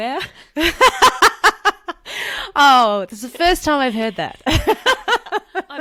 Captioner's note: laughs